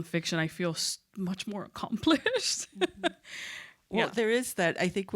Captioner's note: laughs